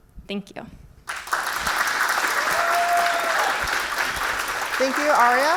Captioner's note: audience clapping